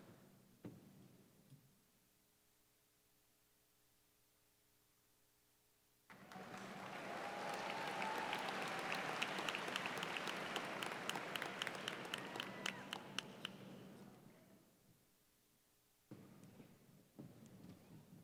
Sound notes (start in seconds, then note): 6.1 cheers and applause